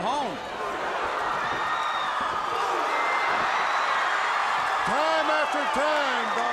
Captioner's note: crowd cheering